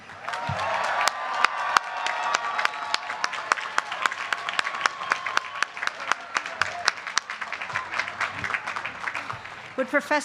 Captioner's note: applause